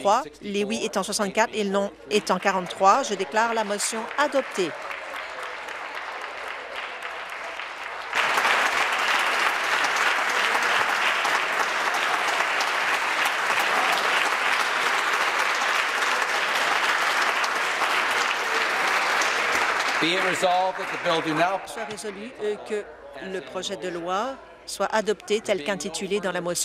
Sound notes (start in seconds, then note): 5.7 applause